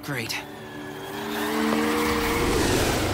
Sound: engine whooshing

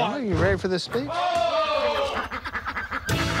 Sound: ducks quacking

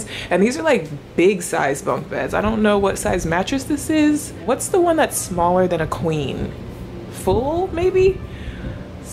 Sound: none

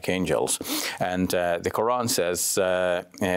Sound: speaks in Arabic

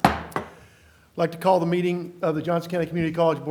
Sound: gavel

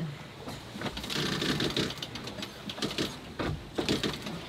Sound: cranking

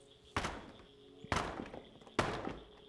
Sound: crashing floorboards

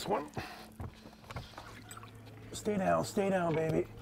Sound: fish splashing

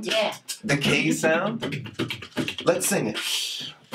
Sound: Mr. Root beatboxing

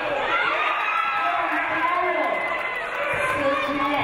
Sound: audience applauding

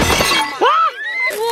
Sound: glass shattering sound effect

